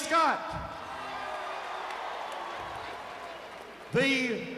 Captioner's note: crowd cheering